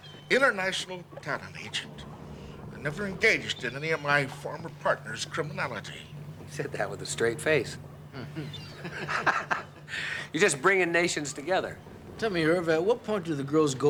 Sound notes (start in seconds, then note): 8.0 laughs; 8.1 chuckles